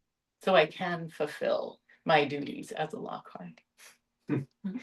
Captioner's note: light laughter